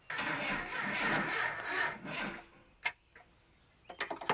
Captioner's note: engine whining